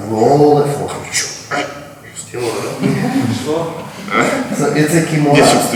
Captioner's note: speaking in a foreign language